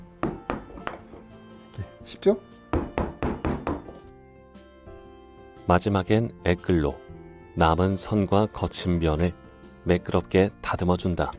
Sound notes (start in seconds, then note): 2.7 hammering sound